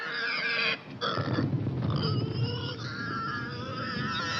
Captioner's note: explosions in distance; squealing